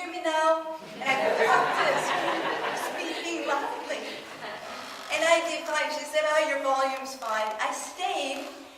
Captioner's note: audience laughs